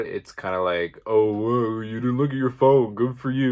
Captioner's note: sarcastically